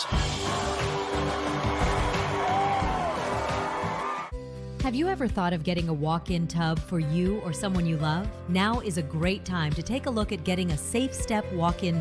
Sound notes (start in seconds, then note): 4.0 crowd continues cheering